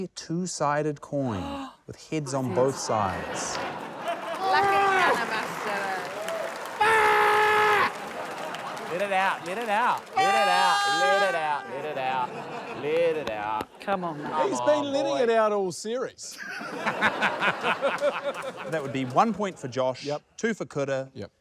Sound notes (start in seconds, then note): 2.4 laughter; 7.8 laughter; 18.6 guffaws